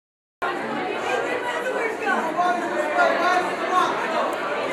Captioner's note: people chattering